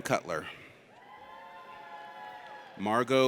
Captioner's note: audience cheers